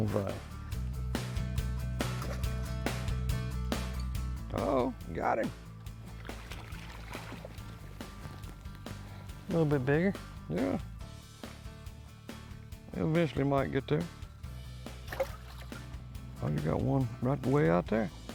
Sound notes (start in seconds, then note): 0.8 upbeat music; 6.0 upbeat music; 6.0 water splashes; 14.8 upbeat music